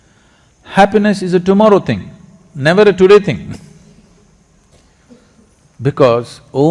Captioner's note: laughs